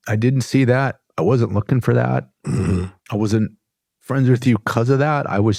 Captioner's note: clears throat and snorts